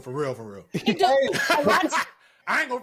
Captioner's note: laughter